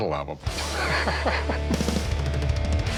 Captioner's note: laughs